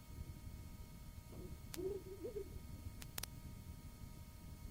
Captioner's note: clicking; laughs; clicking